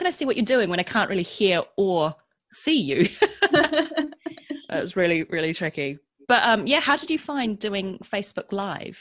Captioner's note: laughs